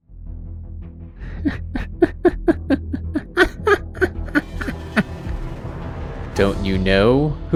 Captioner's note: sinister laugh